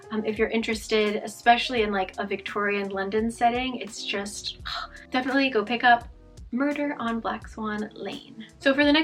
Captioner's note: ugh